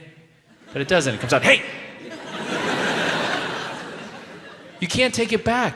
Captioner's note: audience laughs